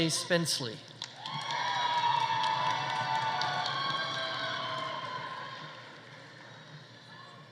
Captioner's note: audience applauding; audience cheering